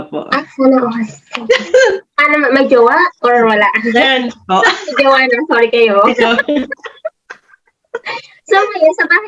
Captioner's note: both laughed